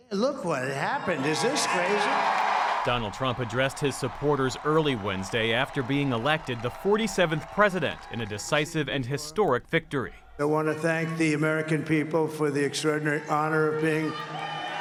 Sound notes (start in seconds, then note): 2.8 cheering